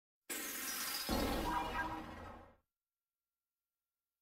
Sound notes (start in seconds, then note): 1.1 digital synth music plays; 2.5 silence